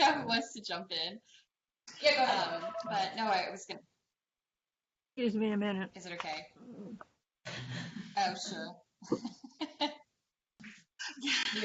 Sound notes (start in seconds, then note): 9.0 laughter